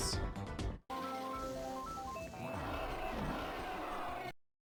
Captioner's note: Music stops and in-game sounds from Mario kart 64